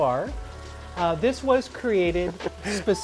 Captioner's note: chuckling